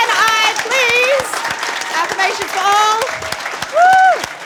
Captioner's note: cheering and Applause